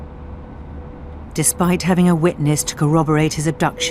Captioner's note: voiceover